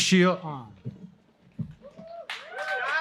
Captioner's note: applause